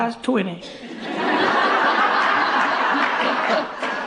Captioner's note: laughter